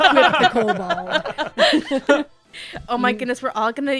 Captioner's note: laughter